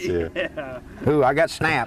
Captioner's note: laughter